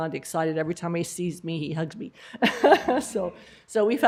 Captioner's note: laughter